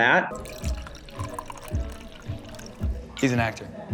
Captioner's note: drink pouring